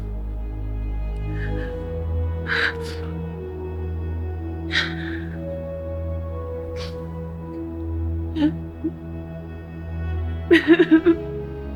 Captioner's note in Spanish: lloros